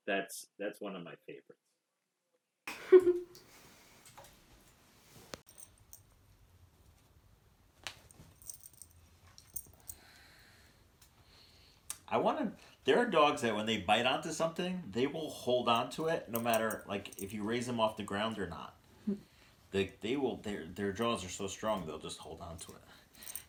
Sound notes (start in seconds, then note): 2.7 laughing, water rippling; 5.1 dog collar clinking